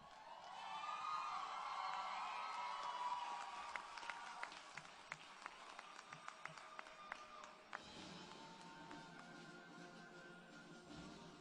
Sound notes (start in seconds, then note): 0.0 applause and Cheering; 9.6 music and Cheering